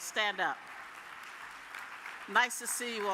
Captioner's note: audience applauds